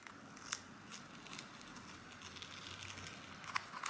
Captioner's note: peeling sounds